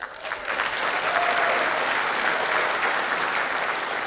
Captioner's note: clapping